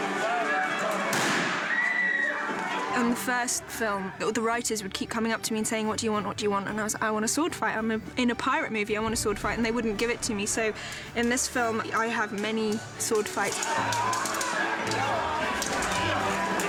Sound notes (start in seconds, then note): 0.9 woman screams; 1.1 gunshot